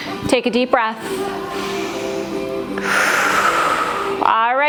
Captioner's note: breath